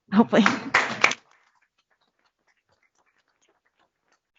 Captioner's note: applause